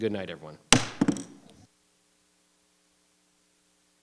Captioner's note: gavel thudding